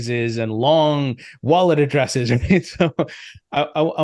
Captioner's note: laughs